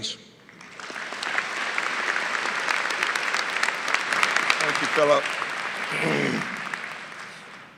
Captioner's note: applause